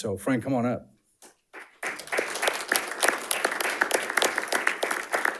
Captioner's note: panelists applauding